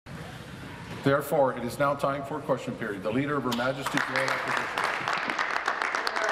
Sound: applause

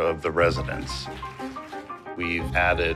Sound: applause

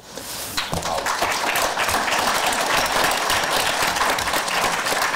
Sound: audience applause

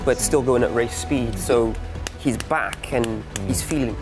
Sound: hands smacking

